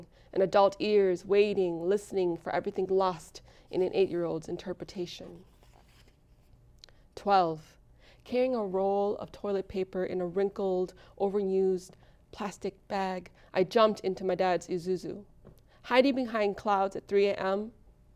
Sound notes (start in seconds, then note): none